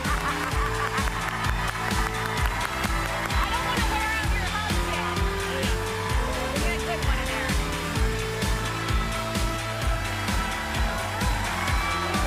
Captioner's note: cheers and applause